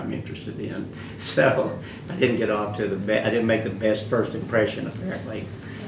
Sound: laughs

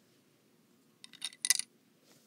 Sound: coins being inserted

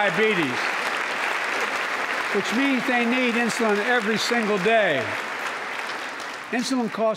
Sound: applause

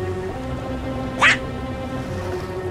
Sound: alarmed

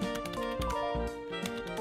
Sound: mail notification

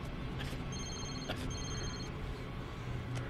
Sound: phone ringing

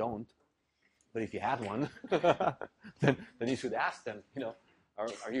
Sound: laugh

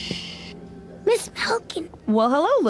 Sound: whispering

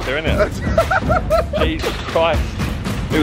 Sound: laughs

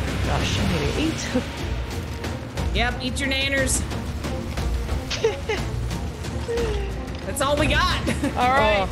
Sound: laugh

